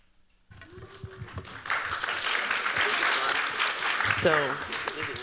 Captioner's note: applause